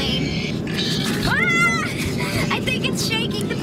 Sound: screams

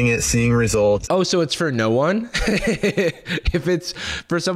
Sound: laughs

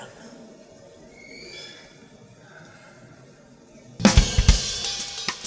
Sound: birds screeching; lively drum music

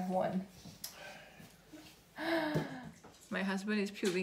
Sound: husband sighs

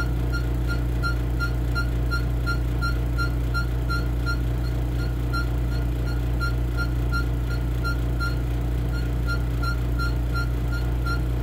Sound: vacuum running, instrument squeaks

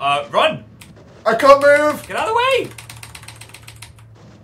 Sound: frantic keyboard clicking noises

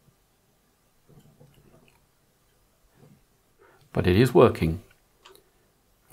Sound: blank Audio

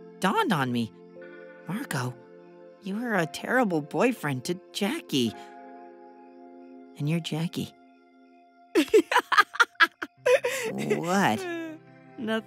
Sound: laughs

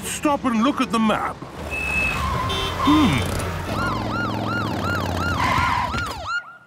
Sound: honking, sirens

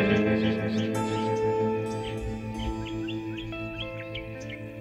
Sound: upbeat music; birds chirping

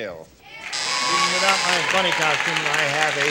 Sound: buzzer

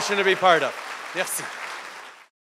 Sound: applause

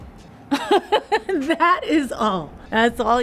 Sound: laughs

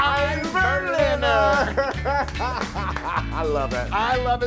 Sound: laugh

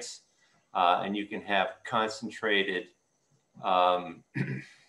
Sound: clears throat

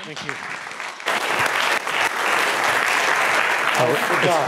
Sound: applause

